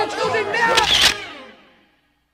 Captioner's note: camera Clicks